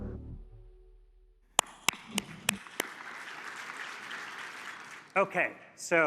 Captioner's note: applause